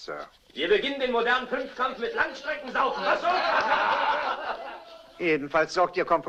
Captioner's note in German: Männer lachen